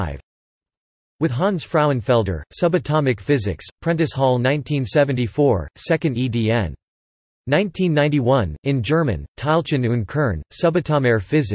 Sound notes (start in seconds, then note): 8.2 in German